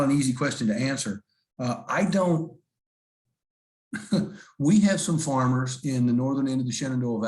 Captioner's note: laughter